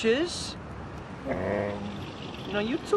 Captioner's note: soft groan